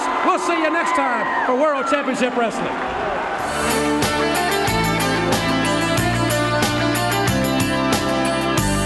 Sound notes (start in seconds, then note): 3.0 audience cheering; 3.4 upbeat music